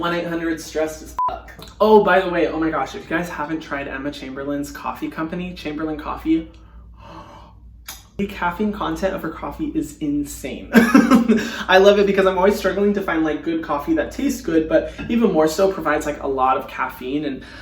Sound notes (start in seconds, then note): 1.2 beep; 7.3 gasping; 10.8 laughing